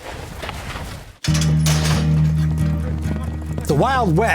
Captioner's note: gate opening; hooves clopping; western music playing